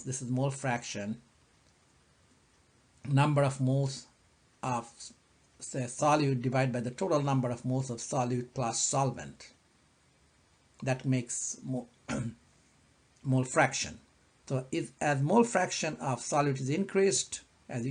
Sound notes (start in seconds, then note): 12.0 clears throat